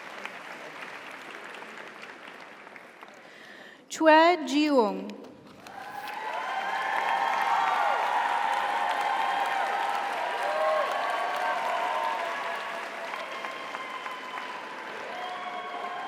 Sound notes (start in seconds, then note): 0.0 audience applauds; 0.2 audience cheers; 2.4 audience applauds; 2.4 audience cheers; 5.6 audience applauds; 5.7 audience cheers